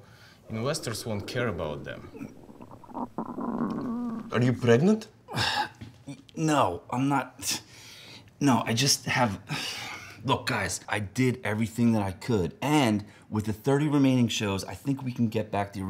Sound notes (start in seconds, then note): 2.7 stomach noise